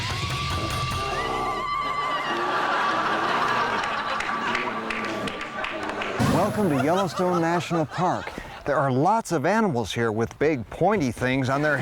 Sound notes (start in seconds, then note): 0.9 jungle sounds; 2.7 growling